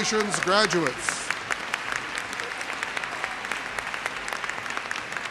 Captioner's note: audience applauds